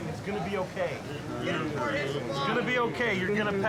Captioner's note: trainees mumbling